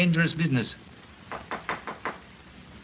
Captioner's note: knocking at the door